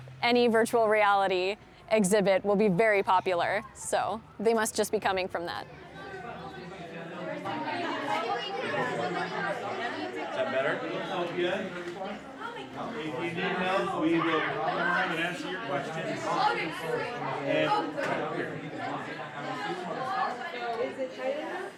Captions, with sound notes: any virtual reality exhibit will be very popular. So they must just be coming from that. [chatter]